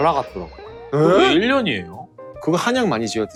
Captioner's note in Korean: 놀란 소리